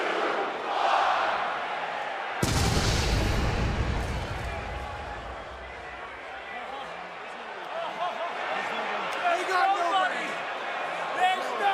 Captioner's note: crowd chatter